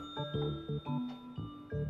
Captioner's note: ding